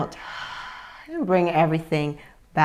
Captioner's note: exhales